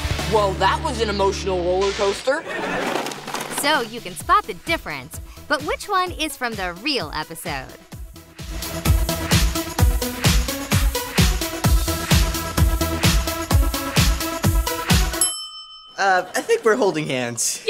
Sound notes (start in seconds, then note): 15.0 bell ringing